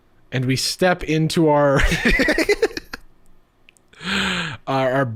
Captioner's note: laughing